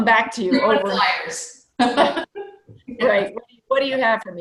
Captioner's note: laughing loudly